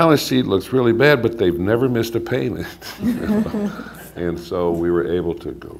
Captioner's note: laughter